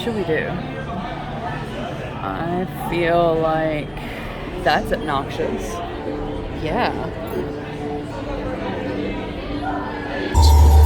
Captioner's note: crowd noise